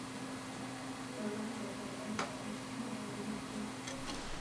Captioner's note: distant Conversations